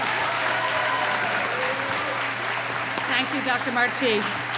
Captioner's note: cheering